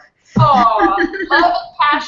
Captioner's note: laughs